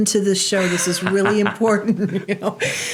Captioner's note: laughing